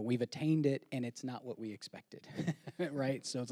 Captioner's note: chuckling